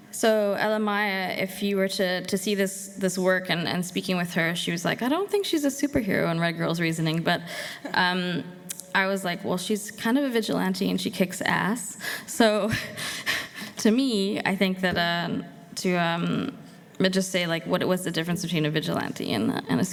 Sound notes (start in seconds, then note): none